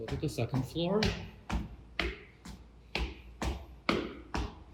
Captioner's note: footsteps